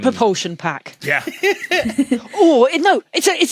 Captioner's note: laugh